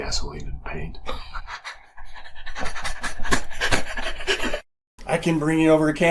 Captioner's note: chuckle